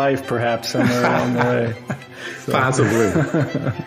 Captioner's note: laughs